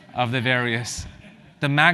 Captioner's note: laugh